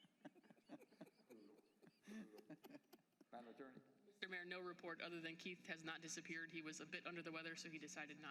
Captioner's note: laughter